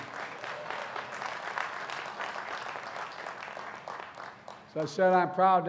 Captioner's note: applause